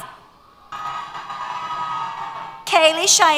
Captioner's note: cheers